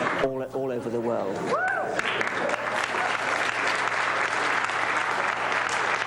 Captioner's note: applause